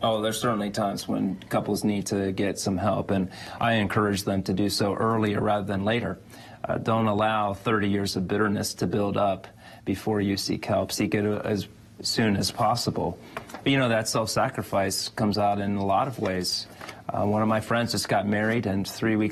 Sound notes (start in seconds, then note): none